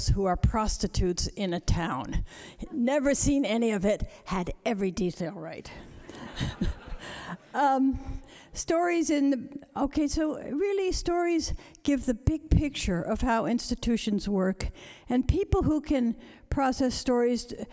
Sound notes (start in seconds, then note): 6.0 laughter